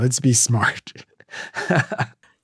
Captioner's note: chuckles